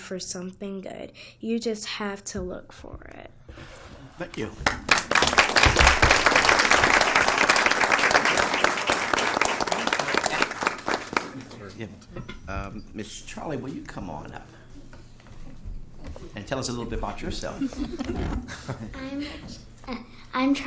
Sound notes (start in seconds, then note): 4.6 applause